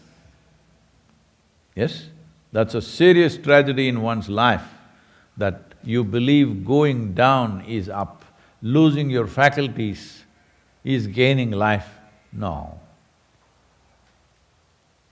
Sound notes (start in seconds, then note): none